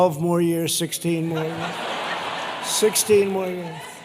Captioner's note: laughter